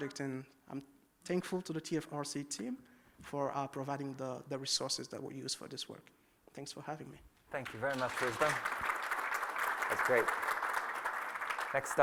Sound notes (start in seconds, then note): 9.3 applause